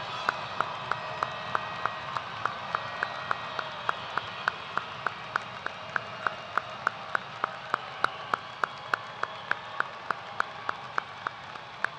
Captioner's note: cheers and applause